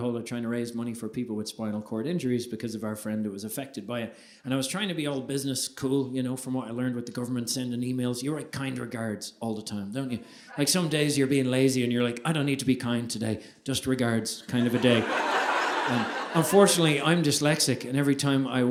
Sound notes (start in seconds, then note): 14.5 audience laughing